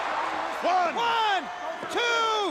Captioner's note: crowd cheering